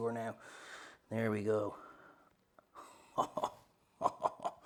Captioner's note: laughs